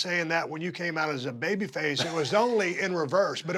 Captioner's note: laugh